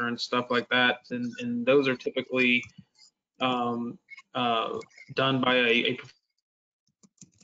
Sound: keyboard clicking

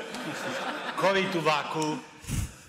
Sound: audience laughing

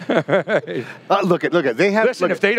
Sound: all laugh

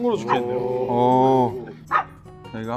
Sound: OHs in unison

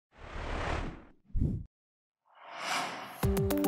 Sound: whoosh; light music

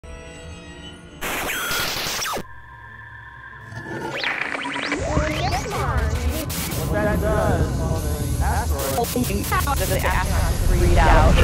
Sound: sound Effects

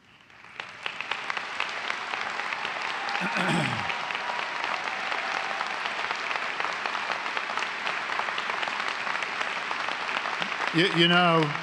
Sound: applause

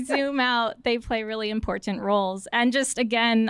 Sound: laughter

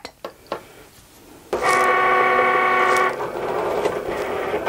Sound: machine whirs

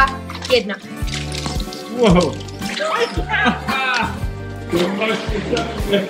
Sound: laughs

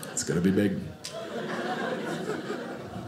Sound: audience laughing

